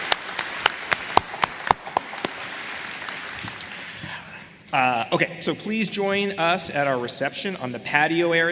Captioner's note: applause